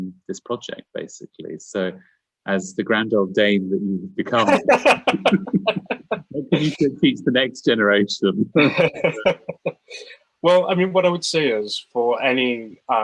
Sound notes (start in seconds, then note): 4.3 laughs